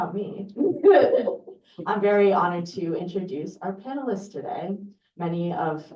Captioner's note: laughter